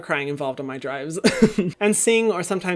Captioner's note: laughs